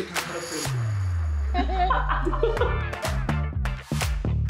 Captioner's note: production team bursts into laughter at the detailed settings